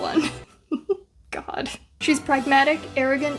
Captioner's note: laughs